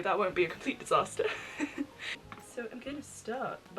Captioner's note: laughs